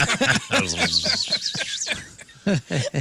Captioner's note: laughing